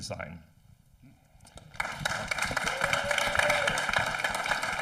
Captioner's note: audience applauding